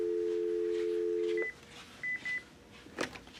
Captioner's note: dial tone